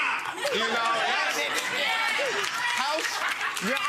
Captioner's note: audience laughing; audience clapping